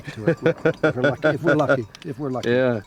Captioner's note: laughing